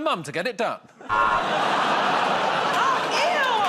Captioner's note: buzzer